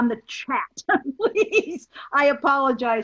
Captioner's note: laughs